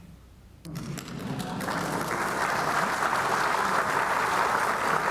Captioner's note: audience applauding